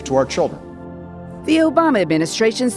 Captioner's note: soundbite of archived recording